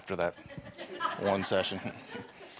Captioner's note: laughter